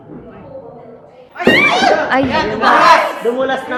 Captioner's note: screaming